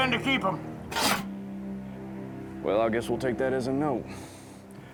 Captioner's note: slides shut